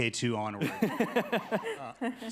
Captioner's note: attendees laughing